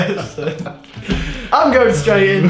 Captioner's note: laughing